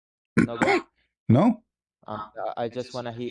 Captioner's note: clears throat